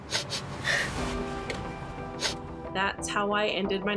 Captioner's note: crying